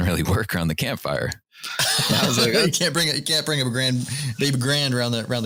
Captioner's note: laughter